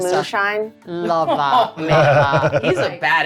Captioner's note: laughing